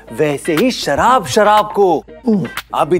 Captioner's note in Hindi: none